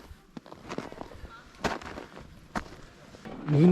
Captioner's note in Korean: 눈 밟는 소리만 들린다